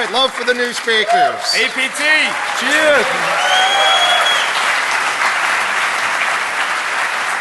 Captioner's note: applause